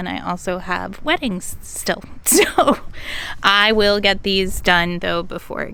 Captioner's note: laughs